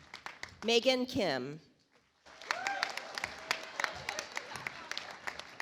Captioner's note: audience applauds